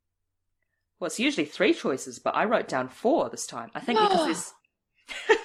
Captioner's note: gasps